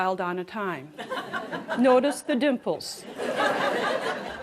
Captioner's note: laughter